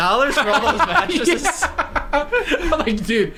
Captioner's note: laughter